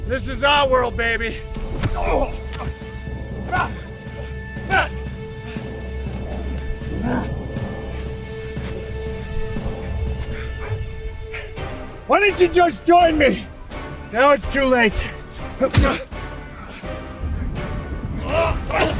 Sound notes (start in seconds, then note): 3.4 kicks striking; 5.1 soft dramatic music; 15.7 punch striking; 18.1 both groaning